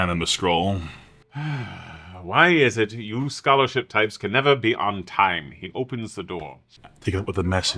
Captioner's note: heavy sigh